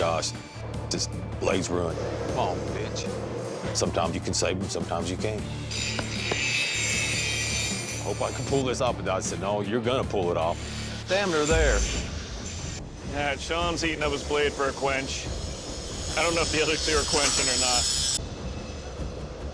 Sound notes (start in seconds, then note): 5.4 machine buzzing